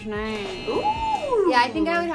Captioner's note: buzzer sounds